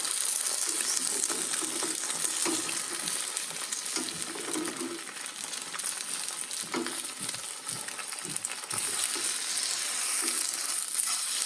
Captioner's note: scraping